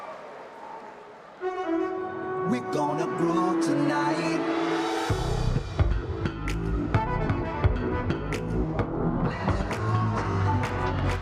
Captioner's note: cheering